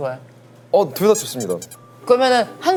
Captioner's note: scratching